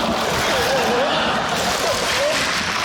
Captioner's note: sobs